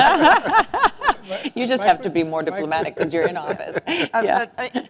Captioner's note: laugh